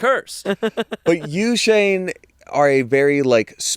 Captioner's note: laughing